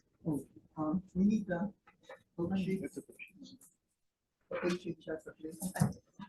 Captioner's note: speaking faintly